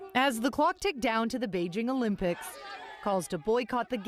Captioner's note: screaming